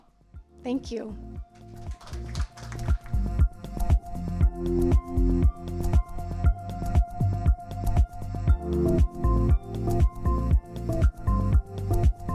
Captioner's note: applause